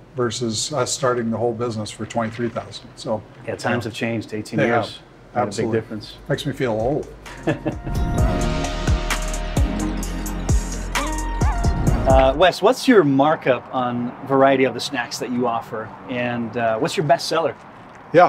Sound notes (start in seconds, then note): 7.2 chuckles